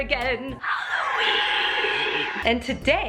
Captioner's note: creepy voice